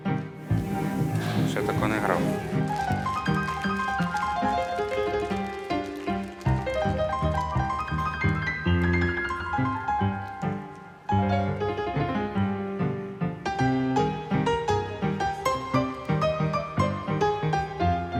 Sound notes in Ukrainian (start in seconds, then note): 5.6 оплески